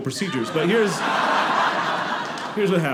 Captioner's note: audience laughing